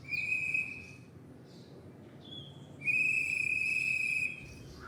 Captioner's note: garbage collector whistling